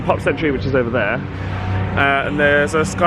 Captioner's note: engines roaring